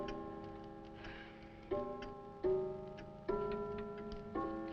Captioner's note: Nan gasping; clock chiming; Nan sighing